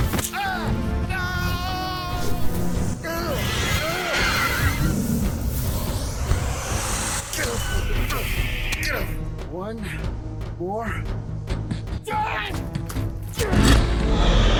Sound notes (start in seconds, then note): 3.0 hissing and roars; 3.0 struggled groans